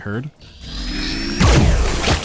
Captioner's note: wrrr; shplurk